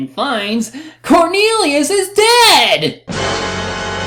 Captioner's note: gasp